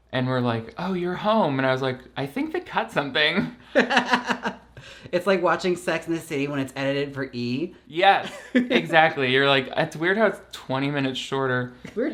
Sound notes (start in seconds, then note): 3.4 laughs